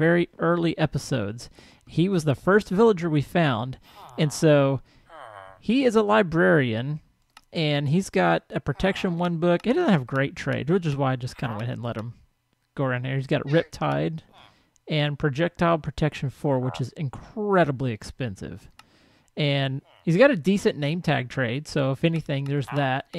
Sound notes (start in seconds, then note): 14.2 llama calls; 14.4 chattering continues